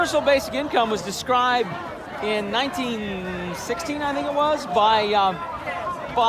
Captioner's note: crowd cheering